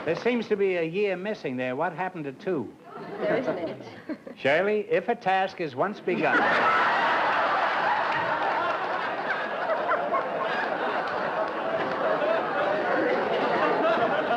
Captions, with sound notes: There seems to be a year missing there. What happened to two? There isn't any. Shirley, if a task is once begun-- [LAUGHTER]